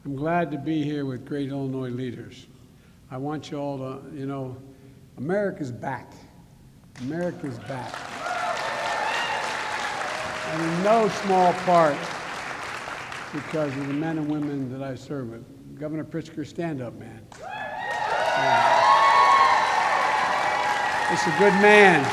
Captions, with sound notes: I'm glad to be here with great Illinois leaders. I want you all to -- you know, America is back. America is back. (Applause.) And in no small part because of the men and women that I serve with. Governor Pritzker, stand up, man. Stand up. (Applause.) This is a good man.